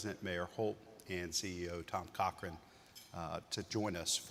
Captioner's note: utensil clinking